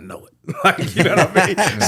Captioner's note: laughing